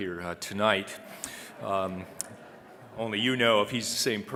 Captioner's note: audience chuckling